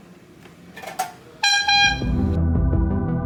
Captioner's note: blow horn honking; casual suspenseful music